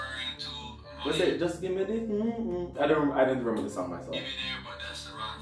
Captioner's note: humming